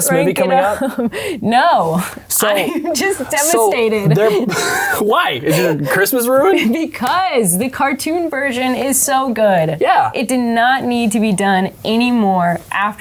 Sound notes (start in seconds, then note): 2.5 laughs